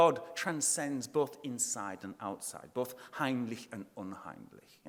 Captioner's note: speaking in foreign language